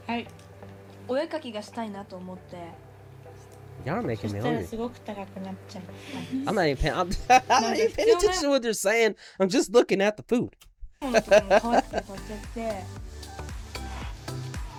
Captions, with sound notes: Y'all are making me hungry. (speaking in foreign language) I'm not even paying attention to what they're saying. I'm just looking at the food. (laughing) (upbeat music)